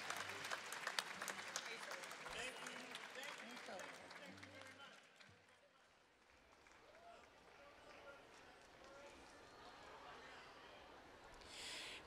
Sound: cheers and applause

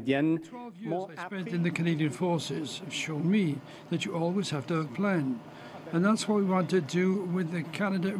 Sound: speaking French

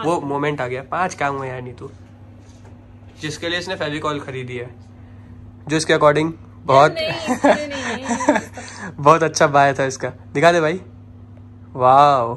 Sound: laughs

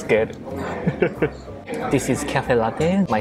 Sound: chuckles

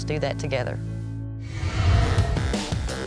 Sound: whoosh; electronic rock

